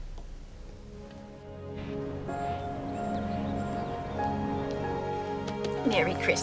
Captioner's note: light dramatic music; light music; birds chirping